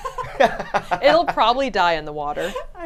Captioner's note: laughs